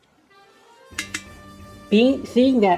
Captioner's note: tap, tap